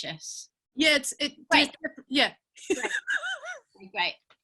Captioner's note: laughing